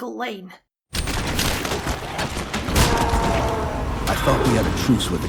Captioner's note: alien screams